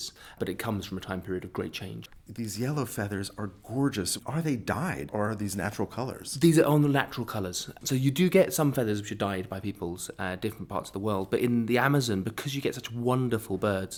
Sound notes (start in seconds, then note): 2.3 voiceover; 6.4 voiceover